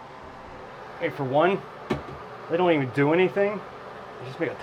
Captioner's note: hand taps; fan blows